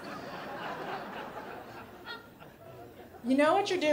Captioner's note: crowd laughing